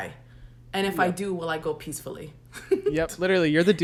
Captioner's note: laughs